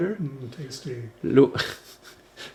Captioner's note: laughter